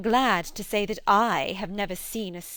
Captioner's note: satirically